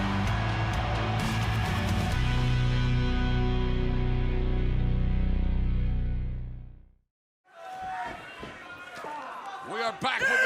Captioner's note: cheers and applause